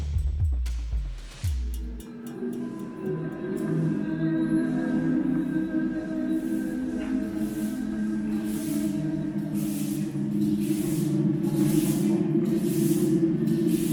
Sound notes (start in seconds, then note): 2.7 somber choir music; 10.5 water splashing